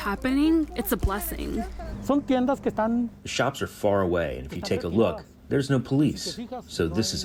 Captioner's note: through translator